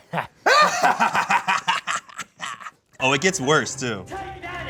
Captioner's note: laughs